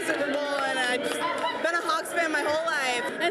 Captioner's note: laughter